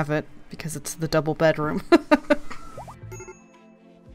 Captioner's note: laughs